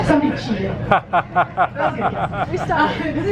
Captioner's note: laughter